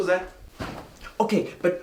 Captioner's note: couch whumphs